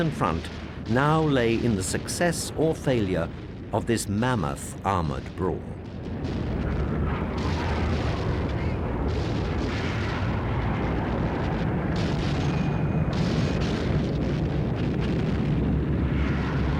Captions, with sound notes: Front now lay in the success or failure of this mammoth armored brawl. (plane engines roar) (gunfire)